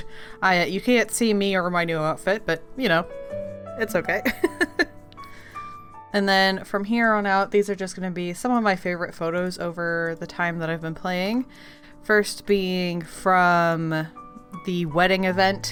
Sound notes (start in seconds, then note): 4.4 laughs